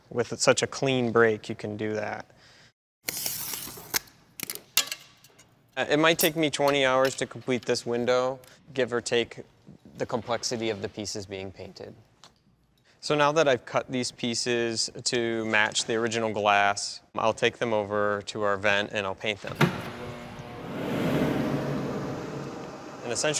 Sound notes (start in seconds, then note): 3.1 glass cutter scraping; 19.5 machine whirs